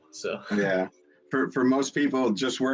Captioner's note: laughs